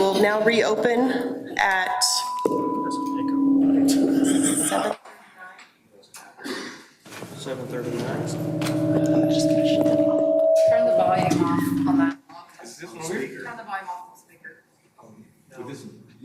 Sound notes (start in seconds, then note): 10.0 loud mic feedback